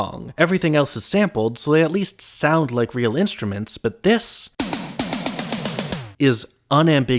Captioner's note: bang